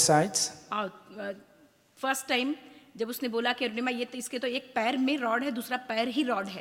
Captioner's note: speaks foreign language